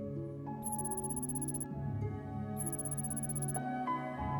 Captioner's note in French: texte vrombissant